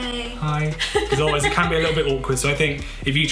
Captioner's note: laughs